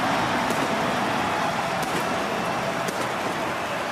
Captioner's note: crowd cheering